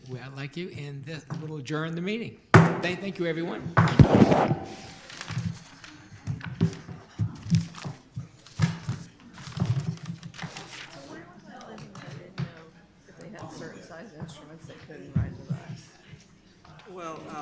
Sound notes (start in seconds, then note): 2.5 gavel strikes; 10.6 people chattering